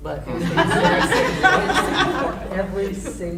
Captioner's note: laughing drowns out speaker